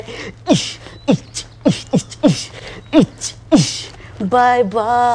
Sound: Bandah beatboxing

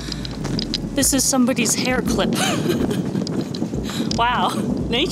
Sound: laughs

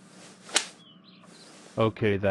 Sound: slap

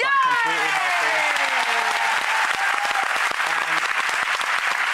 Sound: applause

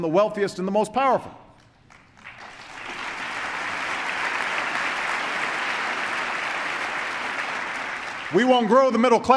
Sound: applause

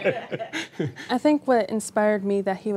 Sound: laughter

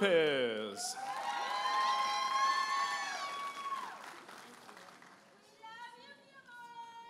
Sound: audience applauding and cheering

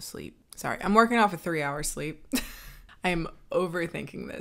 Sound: laughs

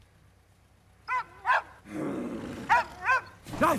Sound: dog barfing

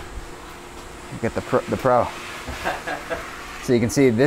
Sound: worker laughs

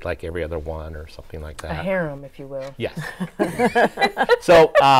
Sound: laughs

